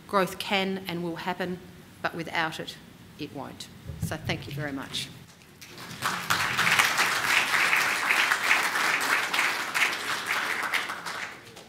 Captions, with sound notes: growth can and will happen. But without it, it won't. So thank you very much. [APPLAUSE]